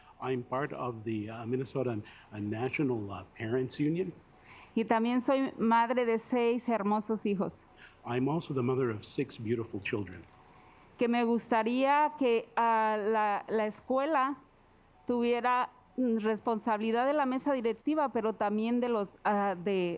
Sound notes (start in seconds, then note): 4.6 speaking Spanish; 10.9 speaking Spanish